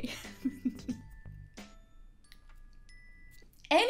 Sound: chuckling

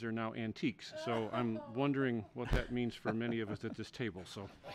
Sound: laughter

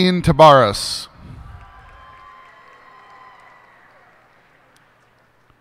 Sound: cheers and applause

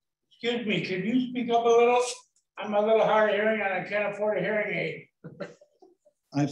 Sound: laughter

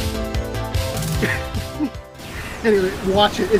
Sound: laughs

